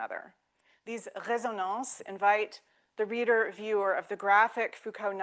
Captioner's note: speaking French